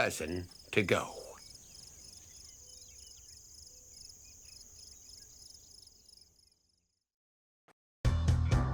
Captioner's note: insects and birds chirping